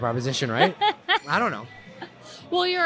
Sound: laughs

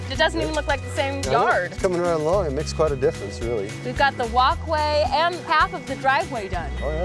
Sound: none

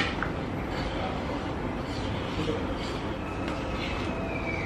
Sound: stirring

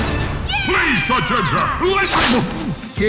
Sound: screaming excitedly

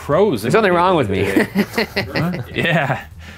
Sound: chuckles

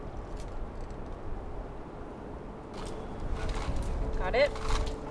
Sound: chains clink

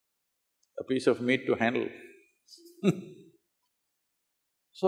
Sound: laughs

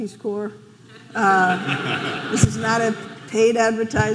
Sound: audience laughing

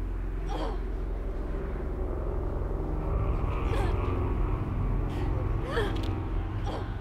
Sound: sounds of struggle heard

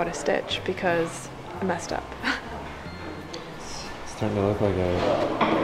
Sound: laughs

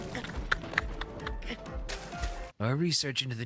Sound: quiet Laughter

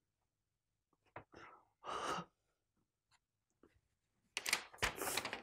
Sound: breathing

